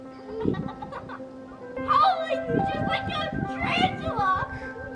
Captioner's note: children playing